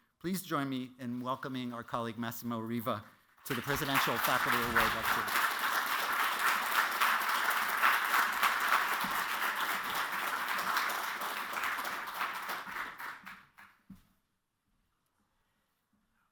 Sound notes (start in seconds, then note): 5.5 applause